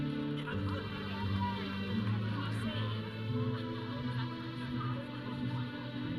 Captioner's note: audience chattering; processional music